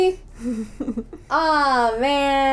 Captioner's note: laughter